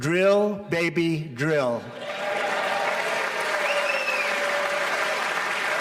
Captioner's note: applause